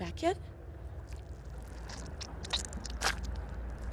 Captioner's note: squelching